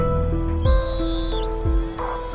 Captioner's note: dramatic music playing; whistle blows